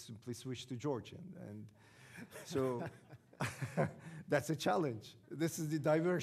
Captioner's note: audience laughing